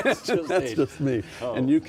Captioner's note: laughing